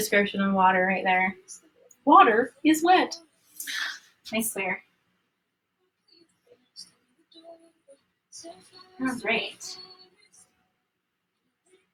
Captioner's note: sigh